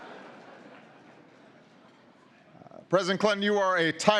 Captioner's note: laughter